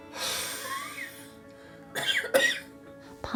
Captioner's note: huffing; coughing